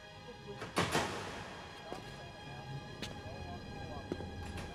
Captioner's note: door clicks; footsteps tapping